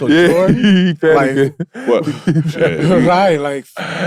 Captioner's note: laughing